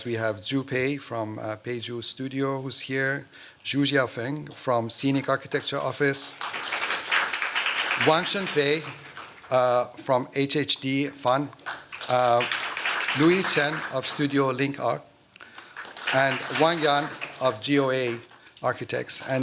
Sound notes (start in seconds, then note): 6.1 applause